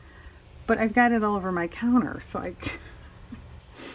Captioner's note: laughs